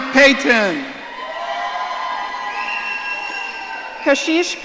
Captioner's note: audience cheering